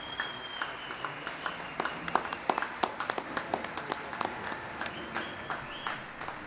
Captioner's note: applause